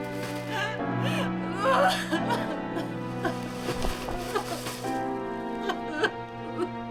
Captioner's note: dramatic solemn music; Laura crying